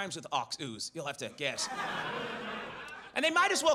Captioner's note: audience laughs